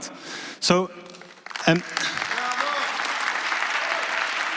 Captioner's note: applause